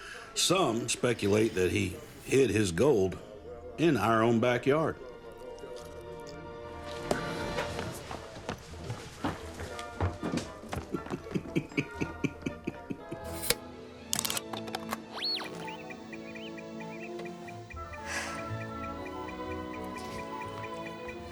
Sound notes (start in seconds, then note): 10.8 chuckles; 14.1 clicking; 14.2 beeping